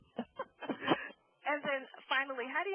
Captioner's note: laughing